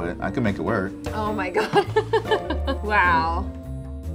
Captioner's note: laughs